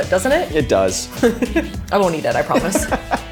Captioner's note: laughing; chuckling